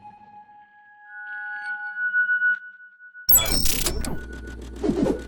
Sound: logo sting sound effects

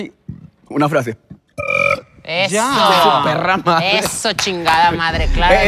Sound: loud burp

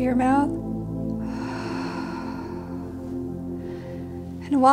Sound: slowly exhaling

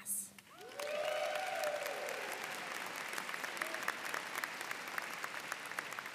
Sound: audience cheering and applauding

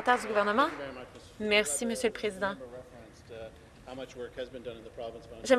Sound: some Applause

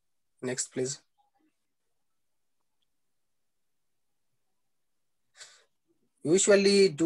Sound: silence

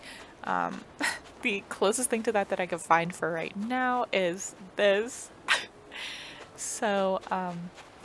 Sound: laugh

